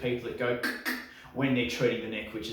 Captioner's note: imitates cracking neck